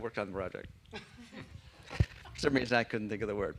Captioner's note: laughter